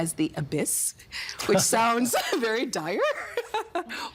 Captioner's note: laughing